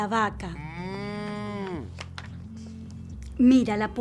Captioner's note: cow moos